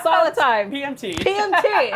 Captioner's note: laughs